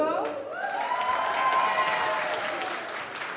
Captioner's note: applause